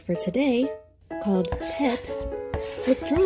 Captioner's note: chalk scratching